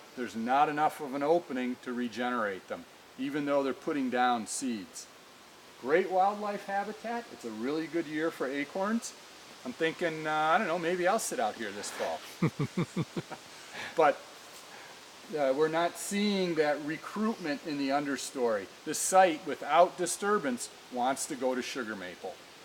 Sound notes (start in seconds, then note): 12.0 laughing